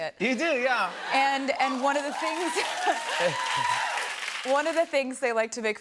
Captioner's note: cheers and applause